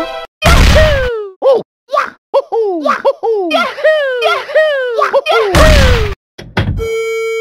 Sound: Mario Sounds

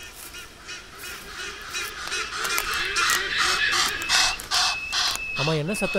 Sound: hornbill brays

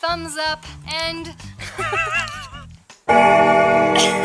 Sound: laughter

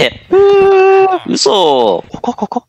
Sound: surprised reax

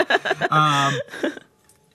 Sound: laughter

